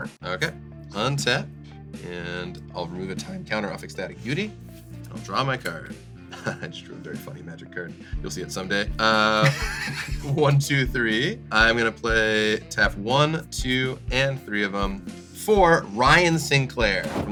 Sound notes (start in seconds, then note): 6.3 laughs; 9.3 laughs; 10.6 counting; 13.0 counting